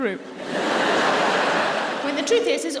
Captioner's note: audience laughing